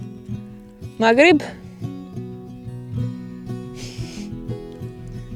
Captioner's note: speaks foreign language